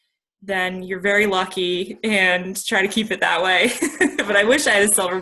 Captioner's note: laughs